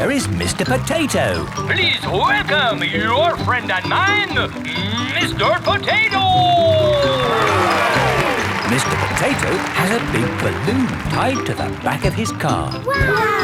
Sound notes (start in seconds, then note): 7.8 cheering